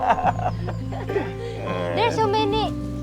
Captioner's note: everyone laughing